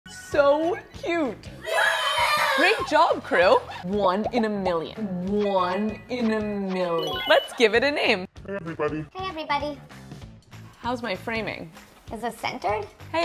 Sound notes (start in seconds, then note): 1.6 kids cheer